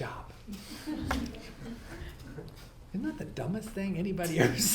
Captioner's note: audience laughs